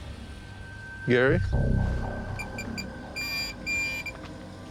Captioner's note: beeping